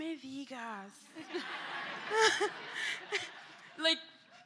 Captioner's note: laughter